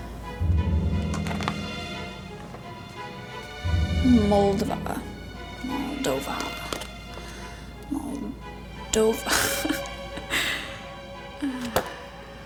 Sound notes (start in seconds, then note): 0.1 suspenseful music; 9.1 laughs